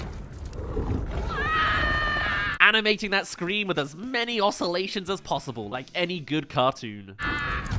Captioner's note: screams